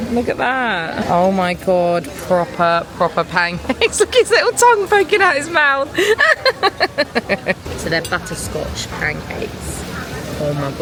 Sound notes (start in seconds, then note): 5.9 laughs